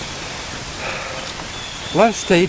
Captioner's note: heavy Breathing